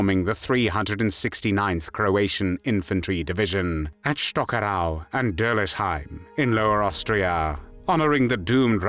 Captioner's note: Croatian